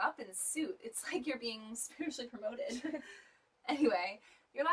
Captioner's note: all laugh